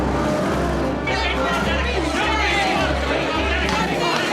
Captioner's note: shouting